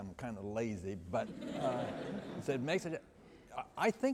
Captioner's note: laughter